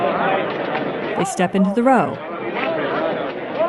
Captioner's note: crowd noise